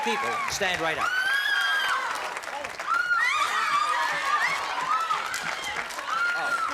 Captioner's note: screaming